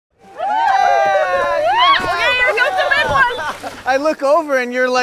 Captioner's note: all cheering